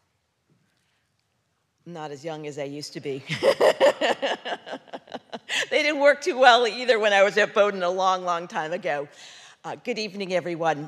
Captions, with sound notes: I'm not as young as I used to be. (laughing) They didn't work too well either when I was at Bowdoin a long, long time ago.